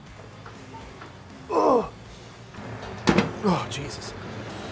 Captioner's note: grunting